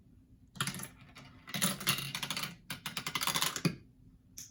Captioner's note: marble rattles on tubes